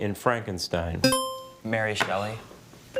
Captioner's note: buzzer chimes